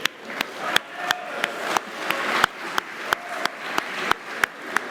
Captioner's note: applause